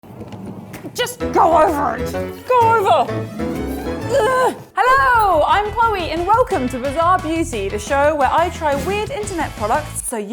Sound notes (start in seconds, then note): 4.0 grunting